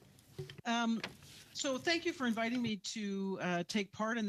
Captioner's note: speaking French